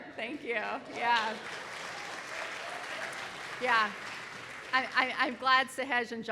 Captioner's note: audience applauding